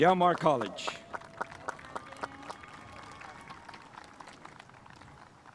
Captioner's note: spectators applauding